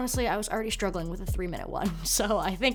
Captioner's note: chuckles